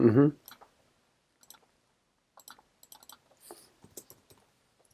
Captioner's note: mouse clicking